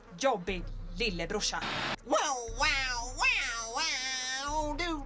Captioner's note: imitates guitar riff